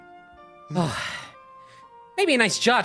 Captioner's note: sigh